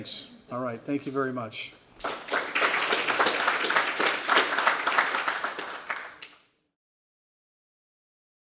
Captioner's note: applause